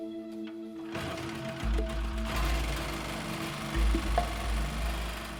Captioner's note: generator starts